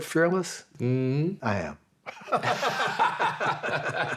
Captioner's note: laughing